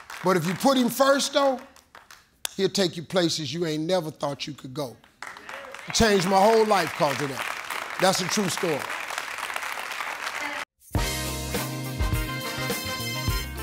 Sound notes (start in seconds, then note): 4.9 audience claps; 10.9 upbeat jazz music